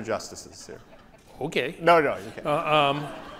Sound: audience laughs

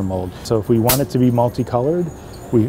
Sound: snapping sound

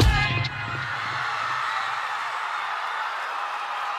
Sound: cheering

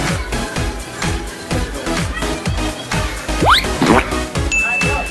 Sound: rope squeaks

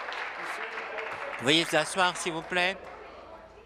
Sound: applause

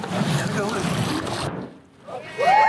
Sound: drum implodes; crowd cheers

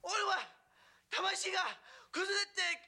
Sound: speaking japanese

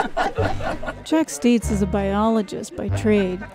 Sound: laughter

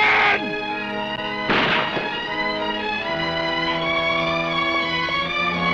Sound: gunshots blasting

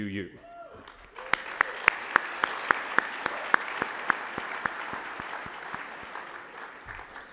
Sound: cheers and applause

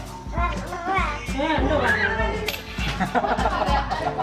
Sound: screams and laughter

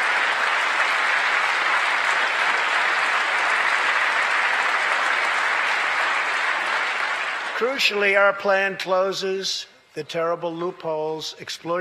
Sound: applause

